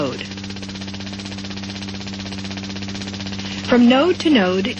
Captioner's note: vibration sounds